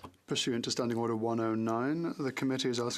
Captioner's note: speaking FRENCH